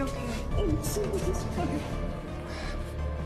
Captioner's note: SInghiozzando